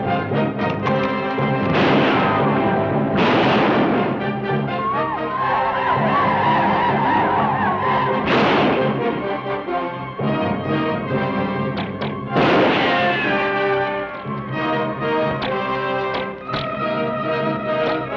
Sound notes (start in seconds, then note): 0.7 gun cocks; 1.5 gun fires; 4.2 native Americans howl; 8.2 gun fires; 11.8 bullet ricochets; 11.9 gun fires; 15.2 bows twang